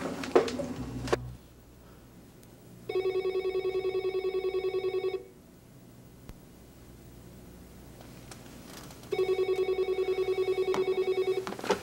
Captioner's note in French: Telephone